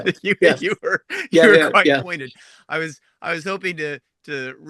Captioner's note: laughs